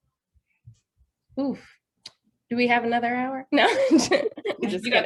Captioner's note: laughs